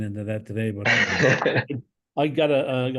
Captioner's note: laughs